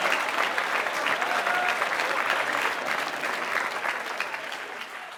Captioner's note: applause